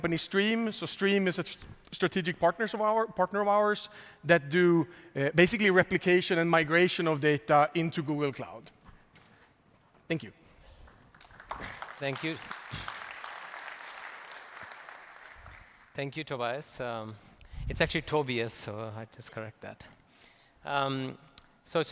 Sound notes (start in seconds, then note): 10.8 applause